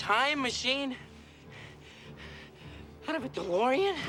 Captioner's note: panting